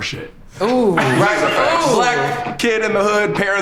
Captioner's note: group laughs